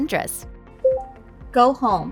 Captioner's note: vehicle beeping